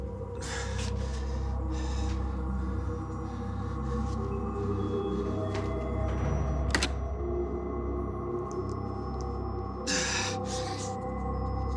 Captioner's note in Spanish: respiración agitada